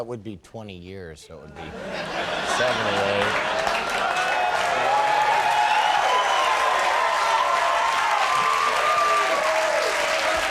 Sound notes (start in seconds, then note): 1.5 audience laughing; 1.6 audience applauding